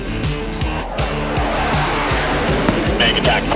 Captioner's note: jet engine roaring